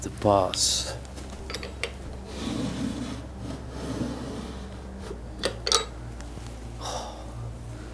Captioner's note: opening and closing drawers